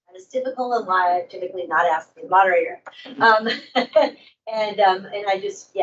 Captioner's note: laughs